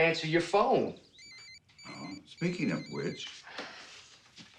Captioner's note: phone ringing